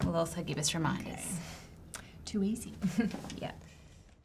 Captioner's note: chuckles